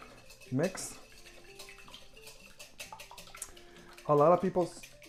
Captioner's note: whisking eggs